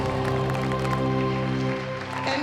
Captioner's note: applause